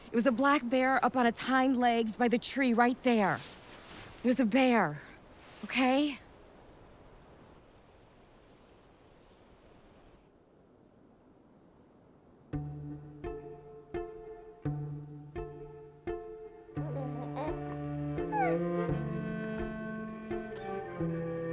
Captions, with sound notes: It was a black bear up on its hind legs by the tree right there. It was a bear, okay? [slow melancholy music playing] [baby cooing]